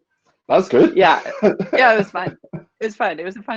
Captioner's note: laughing